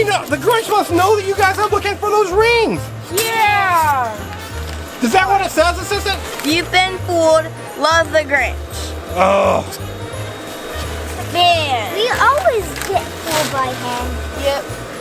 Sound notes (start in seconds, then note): 9.2 man grunts